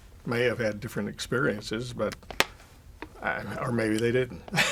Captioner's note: laughs